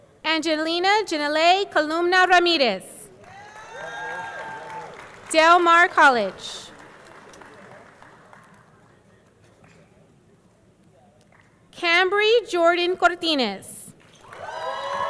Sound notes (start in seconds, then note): 3.2 audience cheering; 3.2 audience clapping